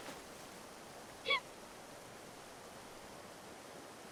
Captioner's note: Lily sobbing